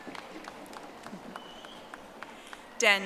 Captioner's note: audience applauding